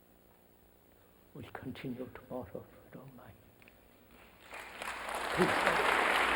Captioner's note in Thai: เสียงปรบมือ